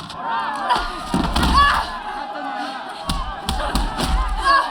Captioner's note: fighting, cheering